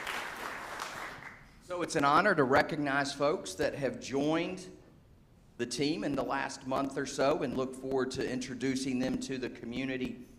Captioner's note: applause